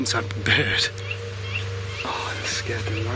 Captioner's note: bird squawking